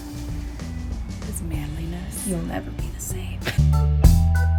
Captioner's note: laughter